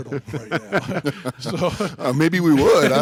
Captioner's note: chuckle